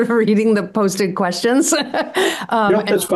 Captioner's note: laughs